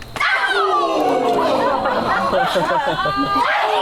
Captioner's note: audience groans; audience laughs